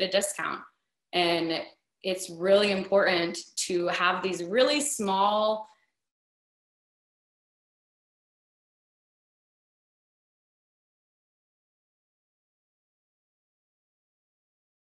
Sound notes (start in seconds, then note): 7.7 audio stops